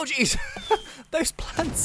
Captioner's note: laughs